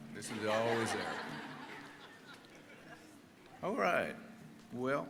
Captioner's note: audience laughing